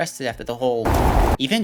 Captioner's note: brief evil tornado noises